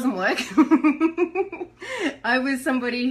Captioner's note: giggles